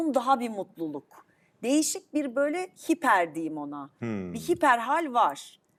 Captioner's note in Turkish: homurdanır